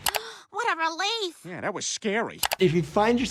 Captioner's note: gasps